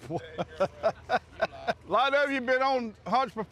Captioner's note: chuckling